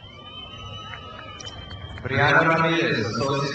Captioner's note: crowd cheers